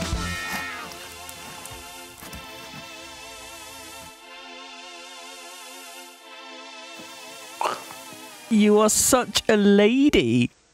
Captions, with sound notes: (dog burp) you are such a lady